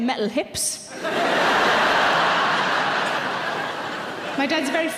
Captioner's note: audience laughing